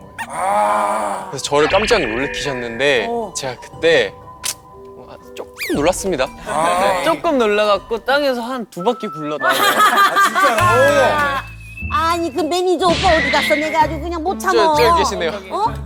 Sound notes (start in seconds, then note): 9.4 laughing